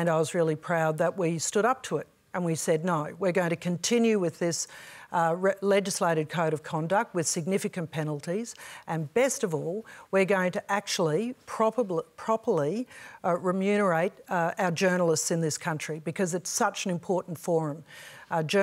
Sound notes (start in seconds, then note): none